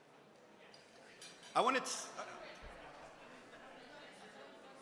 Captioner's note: indistinct chatting